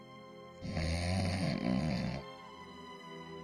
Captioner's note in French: ronflement